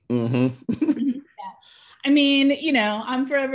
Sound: chuckles

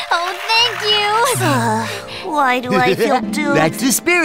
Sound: Tori sighs

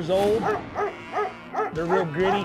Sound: dogs barking

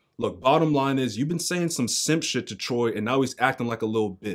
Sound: none

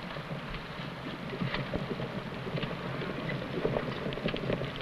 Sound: horse hooves pattering

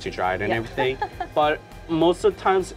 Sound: laughs

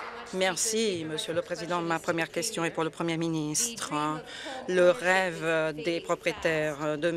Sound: applause

